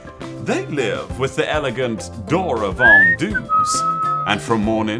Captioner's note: whistling